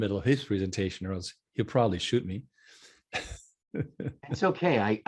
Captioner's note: laughing